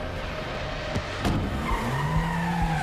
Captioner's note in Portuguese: pneus cantando